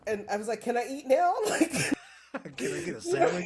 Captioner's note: laughing